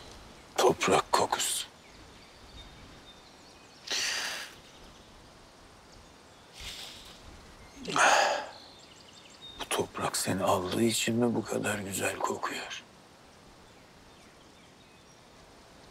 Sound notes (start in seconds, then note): 3.9 breathes deeply; 7.8 exhales